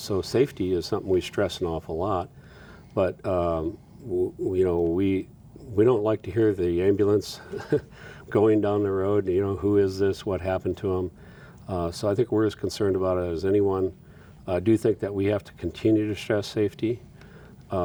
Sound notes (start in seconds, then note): 7.4 chuckles